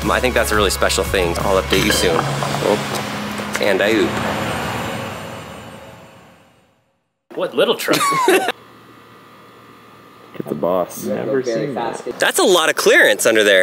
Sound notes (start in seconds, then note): 1.3 metal clanking; 7.8 laughs